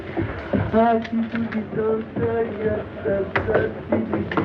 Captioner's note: humming